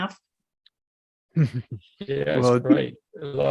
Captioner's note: chuckles